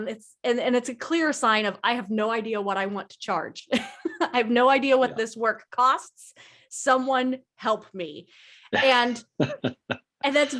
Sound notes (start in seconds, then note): 4.8 laughs; 8.7 laughs